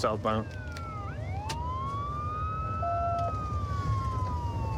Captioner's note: sirens wailing